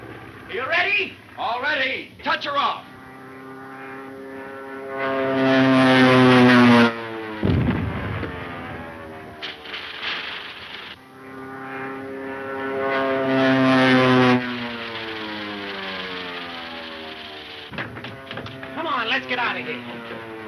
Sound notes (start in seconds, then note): 3.3 airplane engine roaring; 7.4 bomb exploding; 8.8 airplane engine roaring